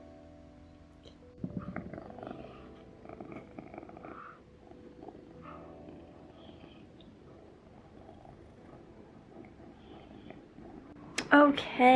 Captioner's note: cat purrring